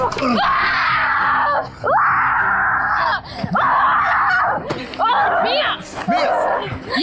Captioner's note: Mia Screaming